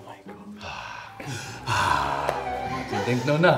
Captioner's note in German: Seufzen